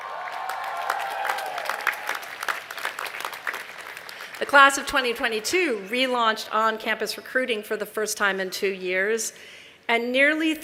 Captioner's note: cheers and applause